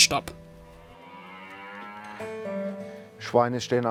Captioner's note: mooing, slow music